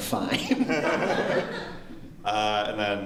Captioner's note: laughter